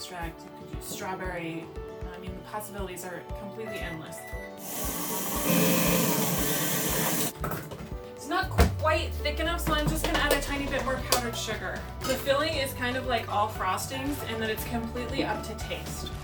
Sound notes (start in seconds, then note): 4.2 oven beeping; 4.7 dough mixer whirring